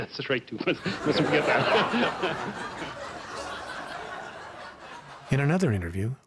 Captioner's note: audience laughs